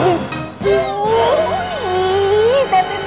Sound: scream

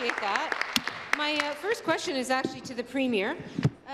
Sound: applause

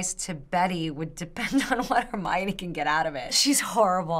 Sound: chuckles

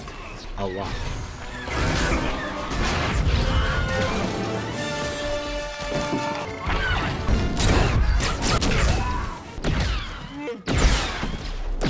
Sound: Lasers, explosions, and Wilhelm Screams

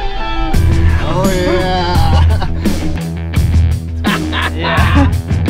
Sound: chuckles; man laughs

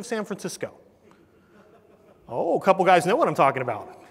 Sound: laugh

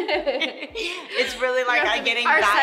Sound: laughing

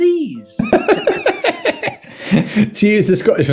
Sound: bad scottish accent; giggling

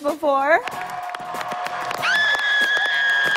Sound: screaming

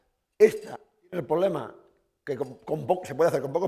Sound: speaking spanish

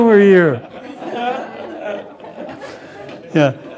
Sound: laughter

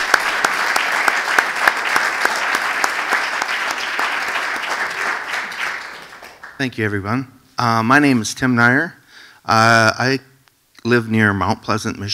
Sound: applause

